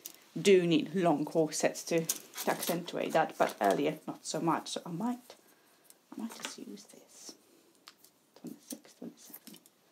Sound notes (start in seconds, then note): 5.2 quietly